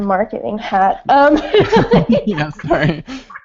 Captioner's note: laughing